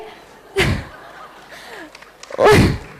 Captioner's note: laughter; applause